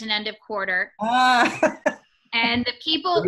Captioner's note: laughing